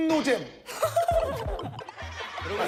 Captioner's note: bursting with laughter